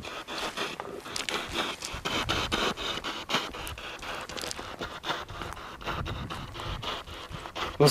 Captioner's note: radio noise from the spirit box